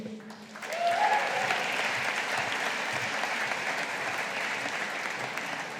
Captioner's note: audience applauding